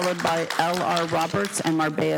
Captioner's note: applause